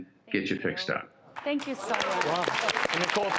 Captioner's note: audience applauding